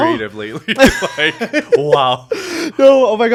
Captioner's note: both laughing